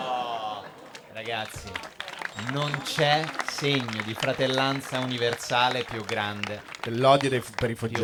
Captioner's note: applausi